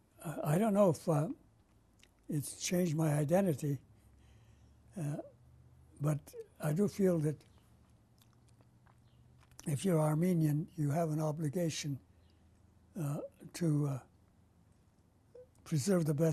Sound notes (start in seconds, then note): 5.0 pauses for 3 seconds